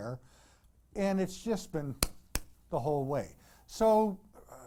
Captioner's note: clap